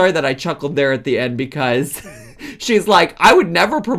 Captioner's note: laughs